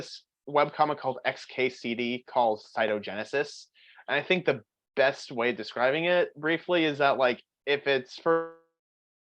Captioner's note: voice cuts out